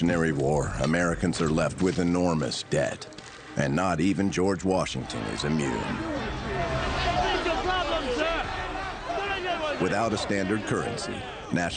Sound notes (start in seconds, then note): 4.8 people murmuring; 6.9 voices chattering